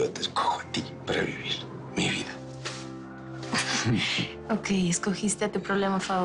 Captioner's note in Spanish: Ella ríe